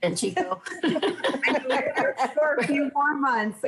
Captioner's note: laughs